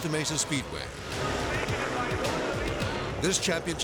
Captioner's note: announcer chatters; bikes revving